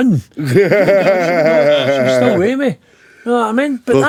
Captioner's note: laughing